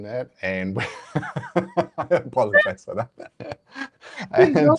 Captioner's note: laughs